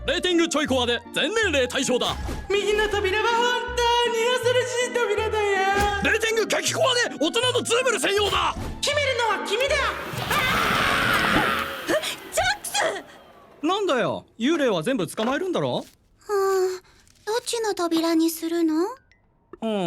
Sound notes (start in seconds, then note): 9.4 vacuum whirs; 9.7 shrieking; 12.3 stammers